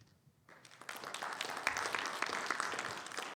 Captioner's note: audience applauding